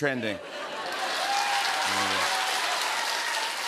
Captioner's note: cheers and applause